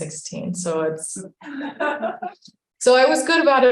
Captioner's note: audience laughing